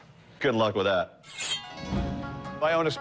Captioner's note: sword unsheathing